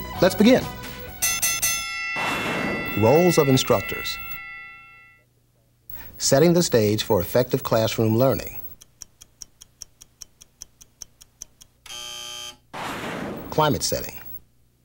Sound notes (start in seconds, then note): 0.8 bell rings; 11.8 buzzer